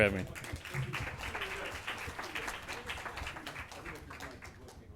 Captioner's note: audience clapping